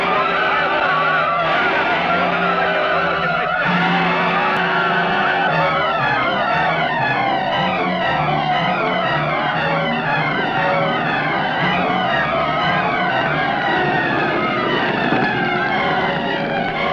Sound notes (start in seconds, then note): 3.6 men shouting; 14.0 flames roaring